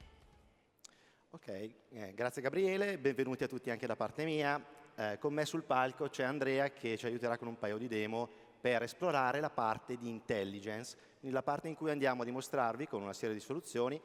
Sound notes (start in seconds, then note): 5.0 speaking italian